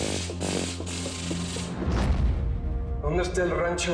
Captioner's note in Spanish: Sonido de descarga eléctrica